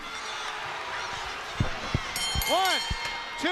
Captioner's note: crowd cheering; bell ringing